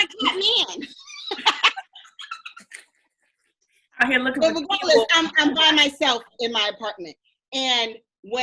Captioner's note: laughs